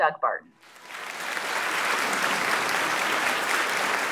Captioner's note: audience clapping